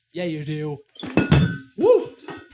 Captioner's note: clang